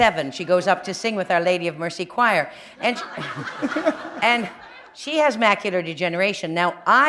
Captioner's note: laughter